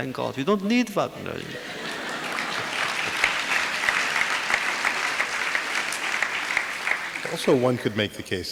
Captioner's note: audience applause